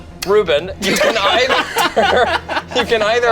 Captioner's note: group laughs